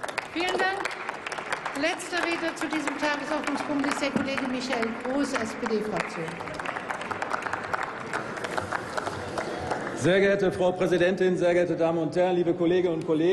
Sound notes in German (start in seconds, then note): 0.2 Applaus; 7.5 Applaus